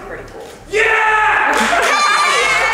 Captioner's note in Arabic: أليكس يصرخ; الضيوف يضحكون ويهتفون ويصفقون